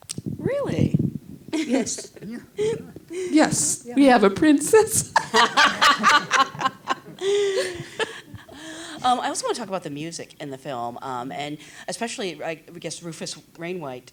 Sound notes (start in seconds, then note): 5.7 laughs